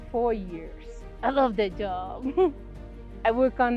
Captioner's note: chuckles